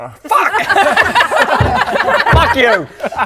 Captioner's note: remorseless giggles